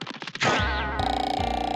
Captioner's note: boing